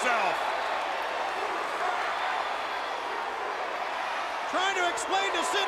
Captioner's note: crowd cheering